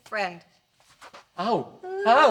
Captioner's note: frantic screaming